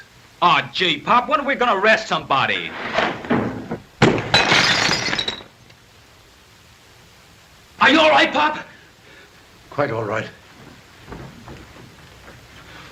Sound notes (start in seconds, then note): 4.0 gunshot